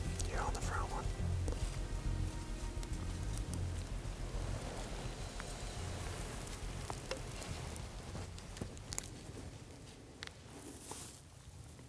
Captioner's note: whispering